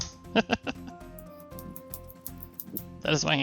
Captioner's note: laughs